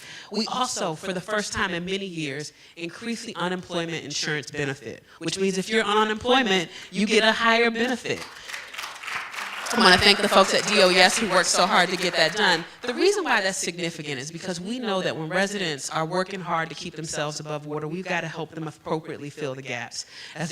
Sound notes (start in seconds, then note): 7.8 applause